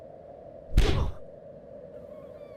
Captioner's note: hand slapping; fists whacking; pain sounds